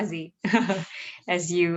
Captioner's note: laughing